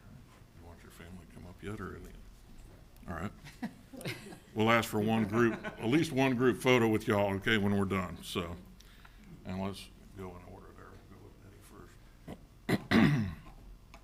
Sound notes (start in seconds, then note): 3.4 people chuckling